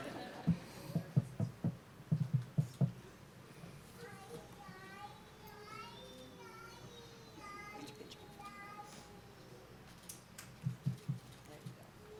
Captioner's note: laughter; background Discussion